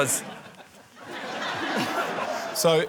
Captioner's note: laughter